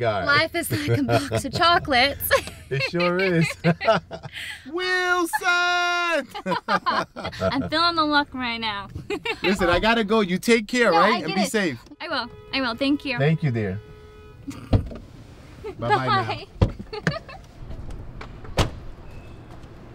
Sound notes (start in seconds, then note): 3.8 emma and manny laugh; 6.0 emma laughs; 13.9 another car honking; 14.4 emma snickers; 15.7 emma giggles